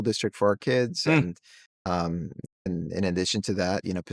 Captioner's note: hums